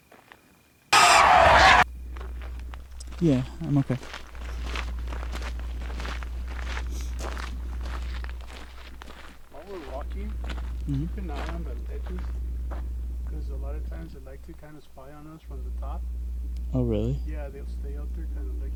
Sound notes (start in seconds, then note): 0.9 screaming